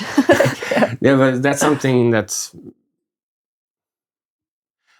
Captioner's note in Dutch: lacht